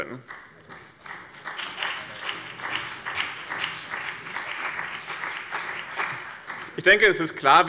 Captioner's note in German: Beifall BÜNDNIS 90/DIE GRÜNEN und vereinzelt CDU